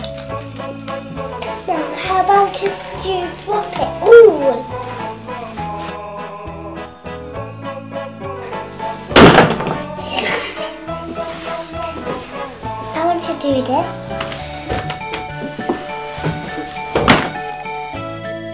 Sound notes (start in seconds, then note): 10.0 giggles